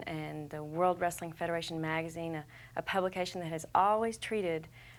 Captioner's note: none